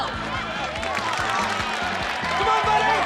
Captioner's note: crowd cheering